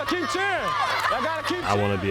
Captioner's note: children cheer